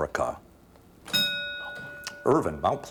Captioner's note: ding